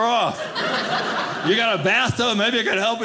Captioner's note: audience laughing